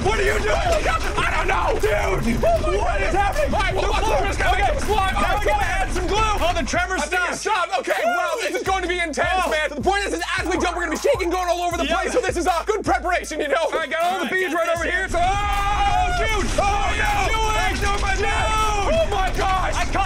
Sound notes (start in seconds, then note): 15.1 screaming; 16.9 bowls rattling